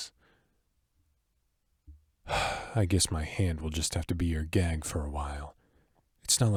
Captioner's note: sigh